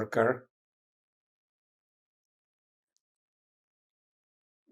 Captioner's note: pauses 6 seconds